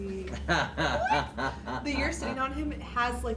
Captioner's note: chuckles